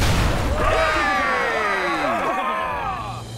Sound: yelling

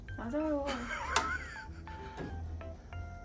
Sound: laughs

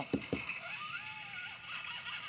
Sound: laughter

